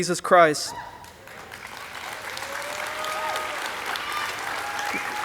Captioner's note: audience applauding